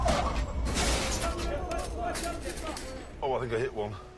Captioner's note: angry shouting